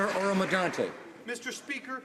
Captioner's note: some Applause